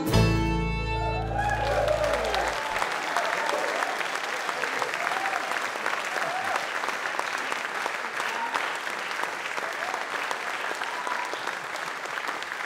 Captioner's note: audience Applause